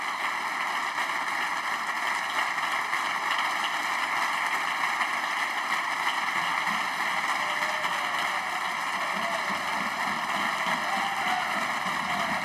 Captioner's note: applause